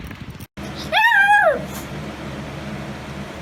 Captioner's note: Ella barks and howls